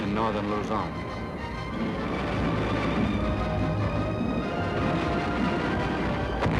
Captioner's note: dramatic music; booming